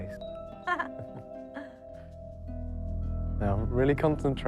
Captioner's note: laughing